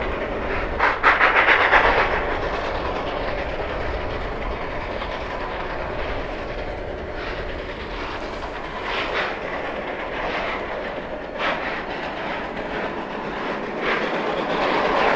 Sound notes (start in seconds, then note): 11.3 chugging in distance